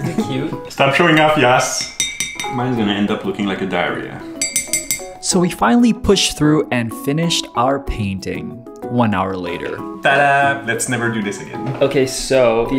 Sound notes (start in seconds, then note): 1.7 clinking; 4.4 clinking